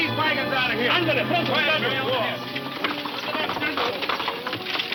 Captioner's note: horse hooves clomping